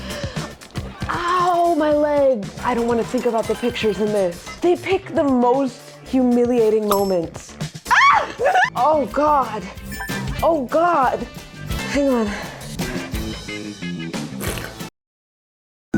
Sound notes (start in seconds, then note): 7.8 squeals; 14.3 slurps